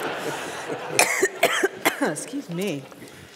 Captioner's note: coughs